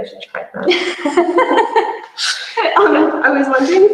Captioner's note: both laugh